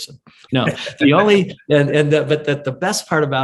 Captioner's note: laughs